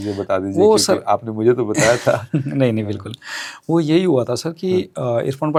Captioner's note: laughs